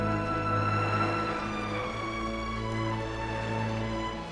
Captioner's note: waves lapping